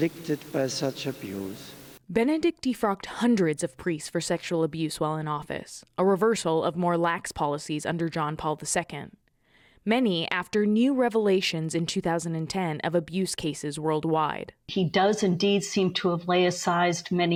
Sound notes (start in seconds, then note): 2.4 voice-over